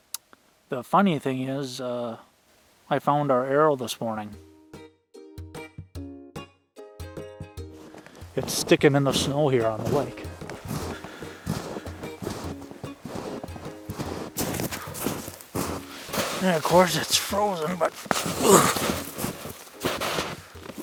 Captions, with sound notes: the funny thing is, I found our arrow this morning. (upbeat music) It's stickin' in the snow here on the lake. (snow crunching underfoot) And of course it's frozen. (grunts)